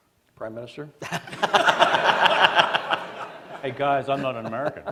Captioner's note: laughter